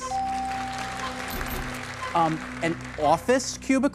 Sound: bell dings

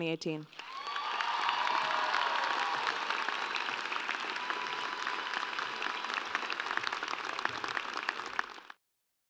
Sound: applause and Cheering

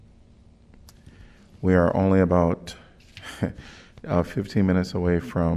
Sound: laughter

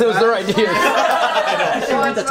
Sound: laughing

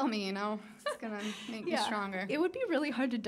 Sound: laughing

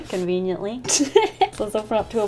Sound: laughs

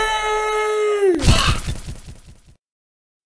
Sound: Flaggy wheezes in pain

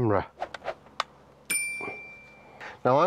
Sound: bell ding

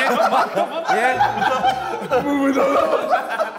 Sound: Sidemen laughing

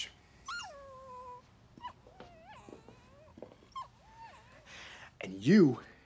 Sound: dog whimpers

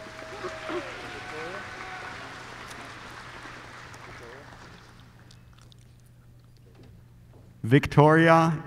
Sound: applause

